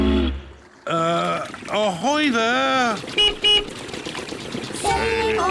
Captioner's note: toots horn; beeps horn